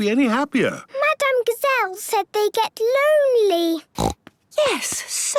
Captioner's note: snorting